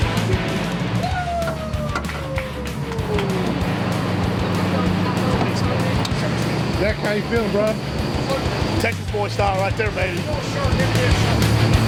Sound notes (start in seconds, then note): 0.9 cheering; 2.4 rock music